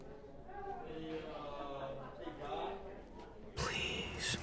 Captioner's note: crew chattering